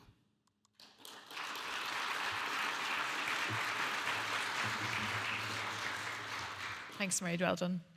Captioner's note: audience applauding